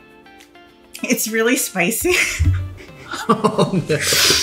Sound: laughing

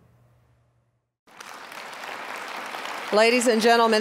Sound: applause

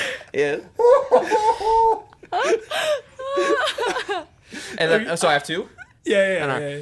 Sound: general laughter

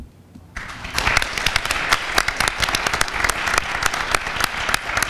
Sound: audience applauds

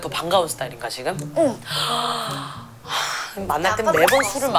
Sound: sigh

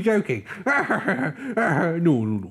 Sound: Growler Laughs

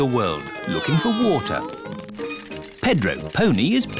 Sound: all mimicking aeroplane sounds

